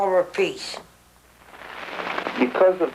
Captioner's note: TV static